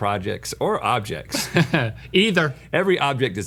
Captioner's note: laughs